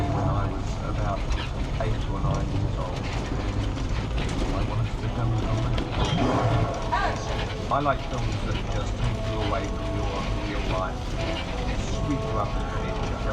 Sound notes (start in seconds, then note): 6.1 beast roars; 7.2 suspenseful music plays